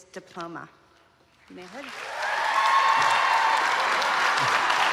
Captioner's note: applause